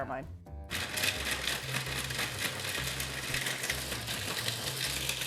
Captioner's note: food processor whirring